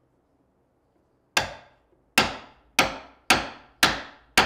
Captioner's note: tool banging